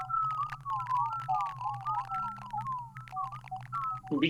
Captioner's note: eerie squeaking